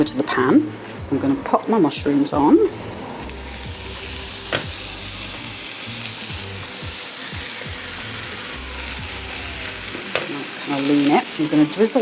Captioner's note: sizzle